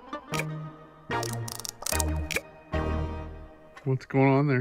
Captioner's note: drilling noise